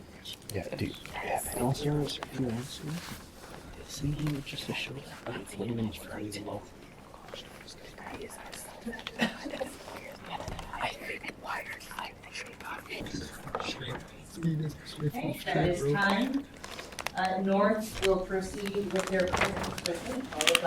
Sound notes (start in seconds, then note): 4.0 students whisper; 9.1 person coughs; 10.5 students whisper